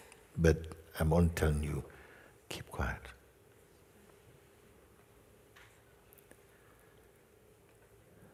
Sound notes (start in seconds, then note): 4.4 lange Stille